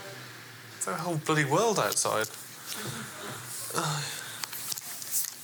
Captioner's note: sighs